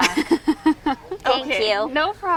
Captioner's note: laugh